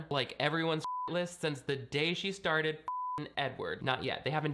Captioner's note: beep; beep